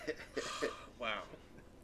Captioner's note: laughing